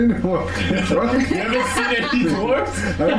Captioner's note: laughter